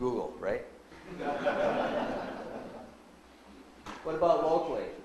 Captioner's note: audience laughs